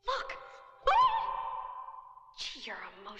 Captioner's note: Kitty screaming